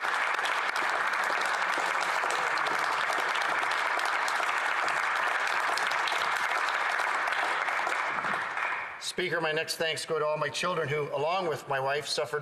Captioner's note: applause